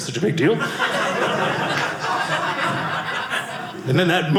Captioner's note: audience laughing